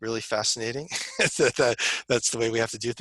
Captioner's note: laughter